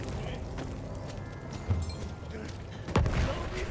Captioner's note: gun fires